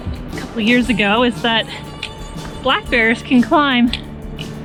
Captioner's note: none